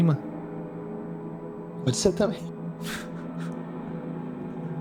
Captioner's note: laughter